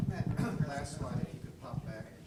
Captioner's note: voiceover